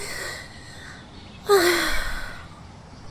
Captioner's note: sighs